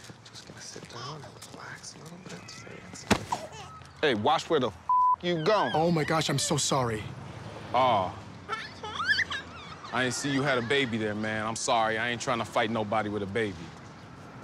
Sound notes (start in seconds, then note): 1.3 baby cooing; 8.4 baby giggles